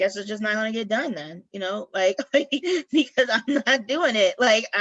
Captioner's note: laughter